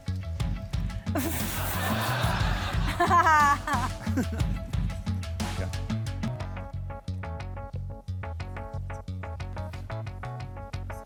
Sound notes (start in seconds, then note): 1.1 laughter; 3.3 laughs